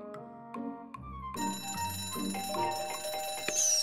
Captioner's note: bell ringing